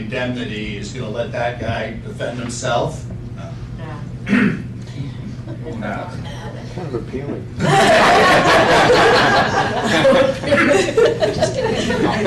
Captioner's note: laughter